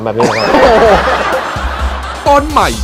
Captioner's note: laughter